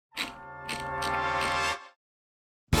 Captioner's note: wheel clicks